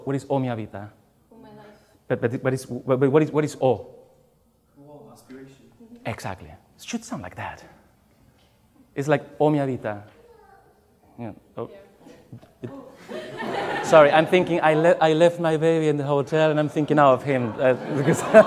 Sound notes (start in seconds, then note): 11.7 baby cries; 12.5 laughs